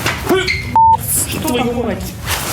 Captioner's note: scream